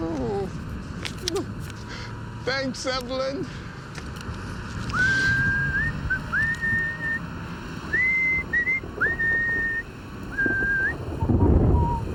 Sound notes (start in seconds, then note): 5.1 Bill whistling; 7.9 thunder rumbling